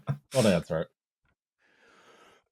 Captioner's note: chuckles